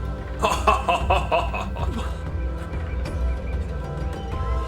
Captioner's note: Master laughing